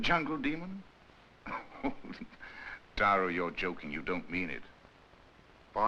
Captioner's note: chuckles